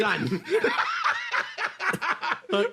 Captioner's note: laugh